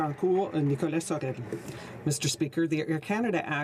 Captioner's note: some Applause